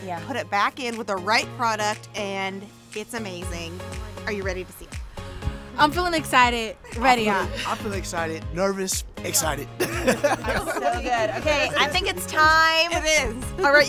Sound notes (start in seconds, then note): 9.4 laughs